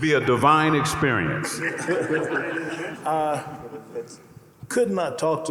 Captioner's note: panelists laughing